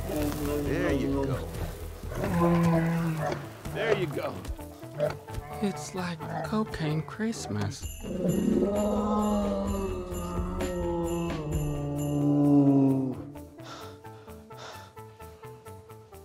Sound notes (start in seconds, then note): 8.0 moaning; 13.6 Eddie panting